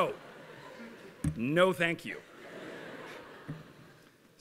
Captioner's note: laughter